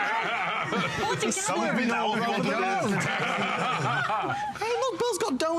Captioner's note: laughter